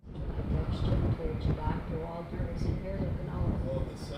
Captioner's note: muffled chatter